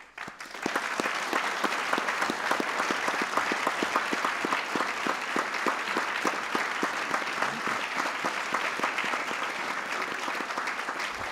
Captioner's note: applause